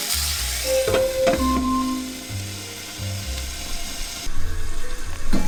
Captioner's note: ringing for the rice